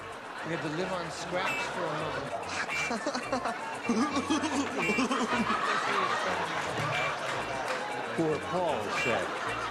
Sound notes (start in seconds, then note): 6.9 laughter